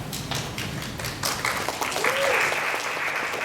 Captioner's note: applause